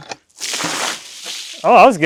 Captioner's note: water splashing